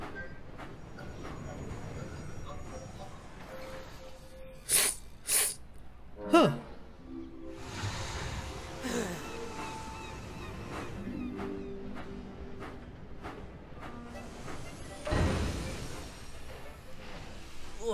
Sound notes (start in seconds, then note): 3.0 whiff sniffs; 8.8 groans